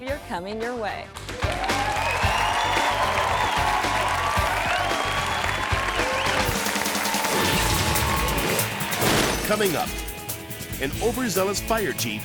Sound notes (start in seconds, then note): 1.3 audience cheering; 6.7 upbeat music